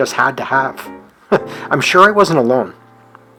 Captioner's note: chuckles